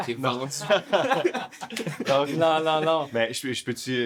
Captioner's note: laughs